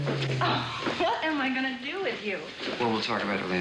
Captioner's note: laughs